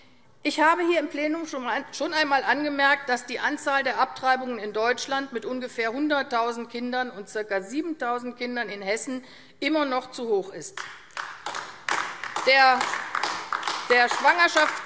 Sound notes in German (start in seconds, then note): 10.7 Beifall AfD